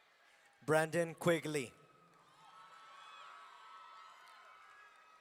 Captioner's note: audience cheering